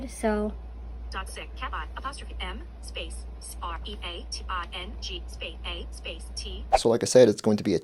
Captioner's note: VoiceOver screenreader reading back individual letters as they are typed